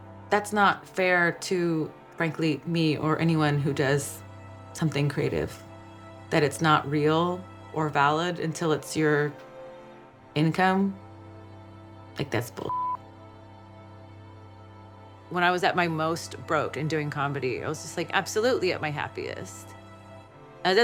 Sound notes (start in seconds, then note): 12.7 beep